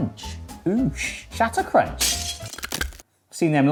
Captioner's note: glass shatters